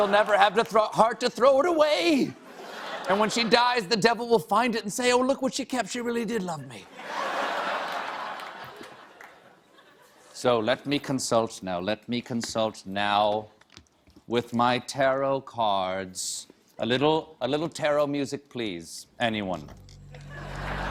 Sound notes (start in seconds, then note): 6.7 laughter